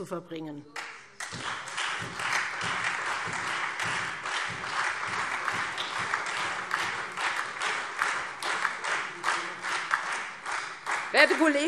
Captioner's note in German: Lebhafter Beifall Freie Demokraten und SPD